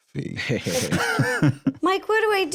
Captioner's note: both laugh